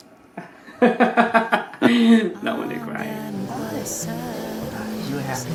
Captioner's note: laughing